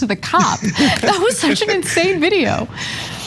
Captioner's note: laugh